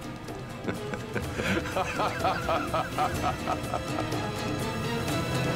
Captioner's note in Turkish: Gülme sesi